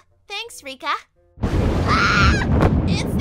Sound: thunder; screams

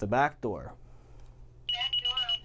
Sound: beeping

